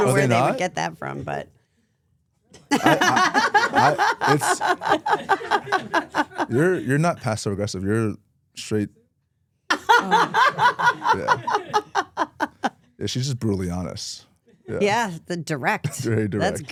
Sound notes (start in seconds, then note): 2.7 both laugh; 9.8 Stephanie laughs